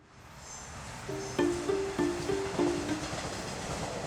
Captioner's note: light guitar strumming; subway sounds